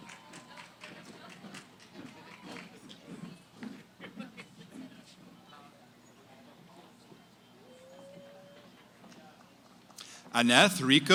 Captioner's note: cheering; background conversations